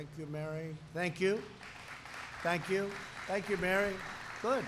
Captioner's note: applause